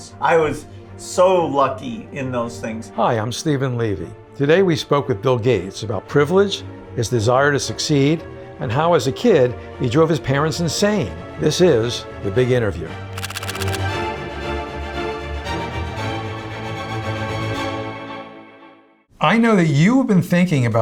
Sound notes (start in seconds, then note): 12.7 intense music; 13.1 photos clicking